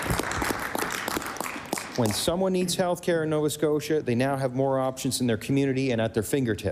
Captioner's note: applause